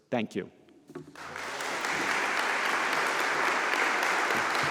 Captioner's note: audience applauds